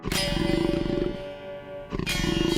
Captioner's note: growling